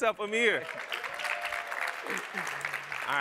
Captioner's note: applause